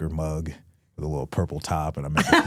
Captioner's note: Stephanie laughs